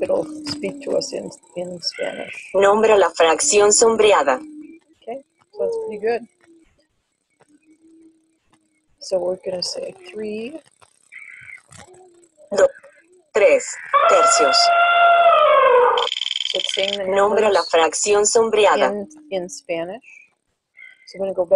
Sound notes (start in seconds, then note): 2.6 speaking in foreign language; 12.1 speaking in foreign language; 13.8 elephant trumpeting; 16.0 wheel clicking; 17.6 speaking in foreign language